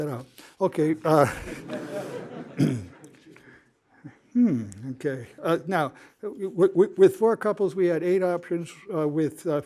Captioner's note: laughter